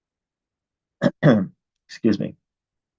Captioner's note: clears throat